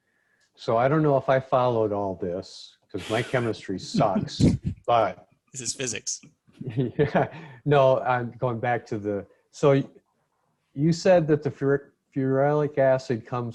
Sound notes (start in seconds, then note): 6.6 chuckles